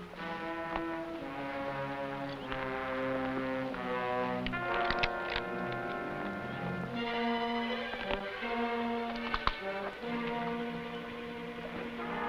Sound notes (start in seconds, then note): 0.2 tense music; 4.5 rifle cocking; 7.0 tense music